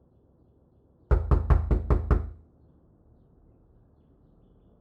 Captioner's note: knocking on door